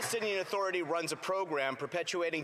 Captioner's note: some Applause